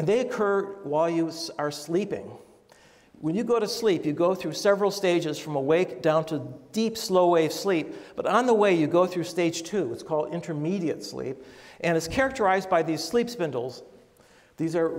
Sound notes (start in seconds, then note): none